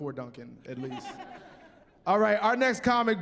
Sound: chuckling

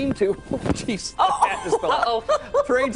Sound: laughter

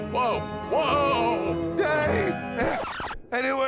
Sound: record scratch

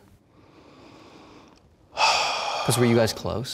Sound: sighs

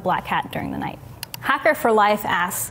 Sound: mouse clicking

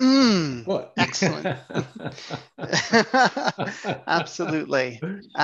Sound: laughs

